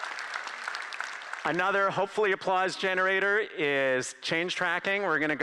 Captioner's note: applause